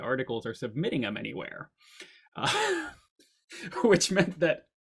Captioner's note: chuckles